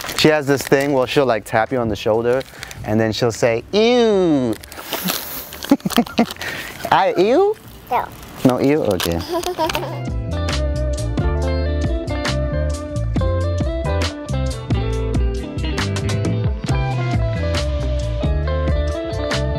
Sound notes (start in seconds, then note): 9.1 child laughing; 10.4 uplifting music